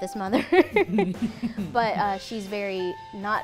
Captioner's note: laughter